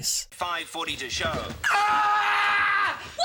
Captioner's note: scream